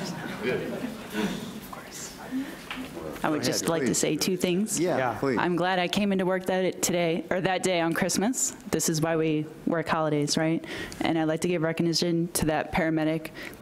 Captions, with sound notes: (murmurs) - I would just like to say two things. - Yeah. - I'm glad I came into work that day on Christmas, this is why we work holidays and I'd like to give recognition to that paramedic.